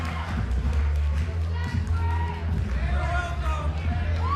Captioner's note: crowd cheering